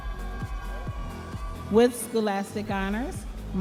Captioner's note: audience members cheering